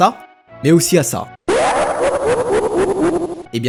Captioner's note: potentiallysonicexelaughbutit'snot.wav